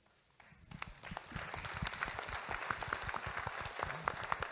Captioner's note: audience Applauding